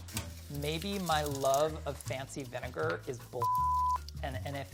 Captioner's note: beeping